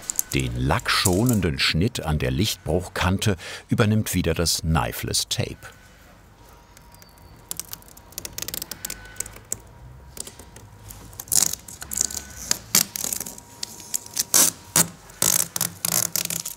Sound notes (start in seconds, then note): 13.6 snapping noises